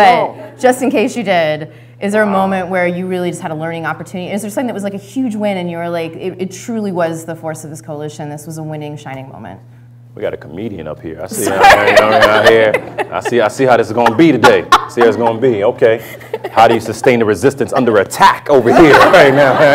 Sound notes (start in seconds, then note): 11.4 laughter